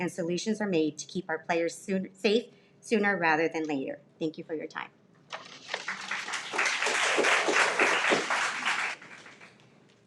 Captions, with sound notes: and solutions are made to keep our players safe sooner rather than later. Thank you for your time. (everyone applauds)